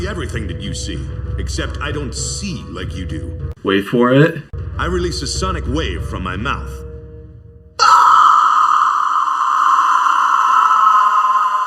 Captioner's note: screaming